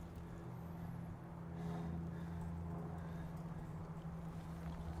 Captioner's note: plane soaring above